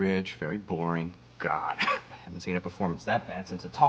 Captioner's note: laughs